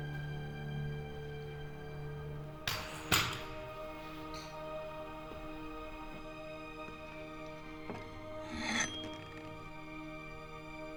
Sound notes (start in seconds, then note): 3.0 gun clattering; 5.0 gentle tense music; 7.8 ax scraping